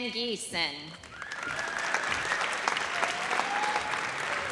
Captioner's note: audience cheers